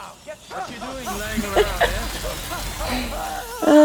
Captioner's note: laughs